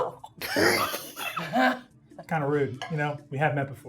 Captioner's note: everyone laughing